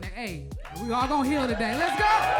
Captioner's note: crowd applauds; crowd cheers